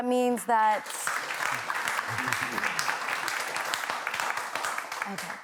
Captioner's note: applause